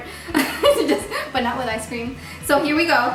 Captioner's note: laughing